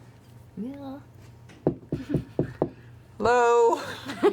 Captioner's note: knocking